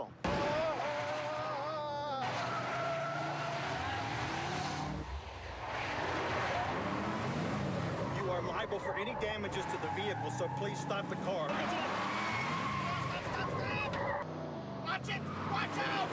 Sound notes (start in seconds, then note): 8.7 tiring screeching